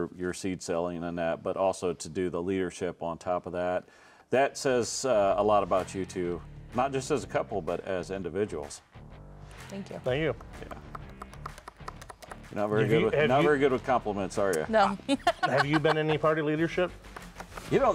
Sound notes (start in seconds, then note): 7.8 upbeat rock music; 15.0 laughing